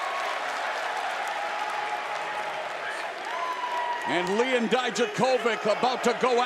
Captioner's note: crowd chattering